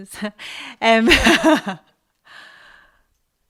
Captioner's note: laughts